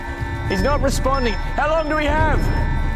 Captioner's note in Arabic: none